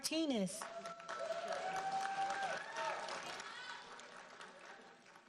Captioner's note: audience applauding